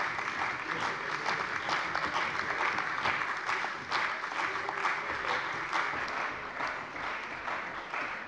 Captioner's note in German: Beifall bei der CDU und dem BÜNDNIS 90/DIE GRÜNEN